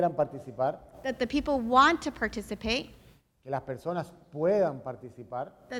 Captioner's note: speaking in Spanish